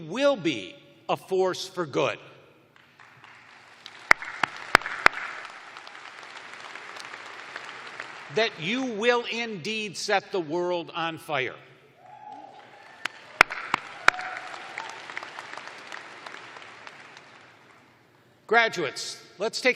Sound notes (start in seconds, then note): 0.5 applause; 7.9 cheering; 12.0 cheers and applause